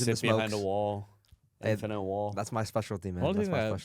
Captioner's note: laughs